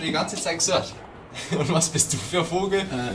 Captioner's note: laughs